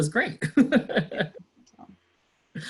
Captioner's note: laughs